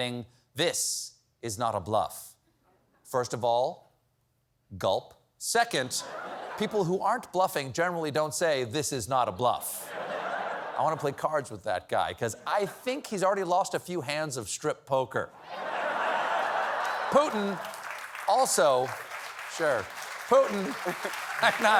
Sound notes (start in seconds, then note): 15.4 laughter; 19.8 applause